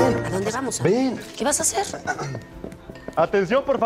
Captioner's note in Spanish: carraspeo